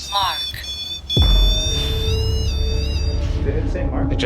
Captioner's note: REM Pod beeping